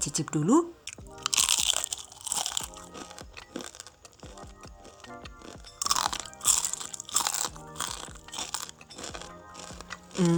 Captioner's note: crunch … crunch … crunch …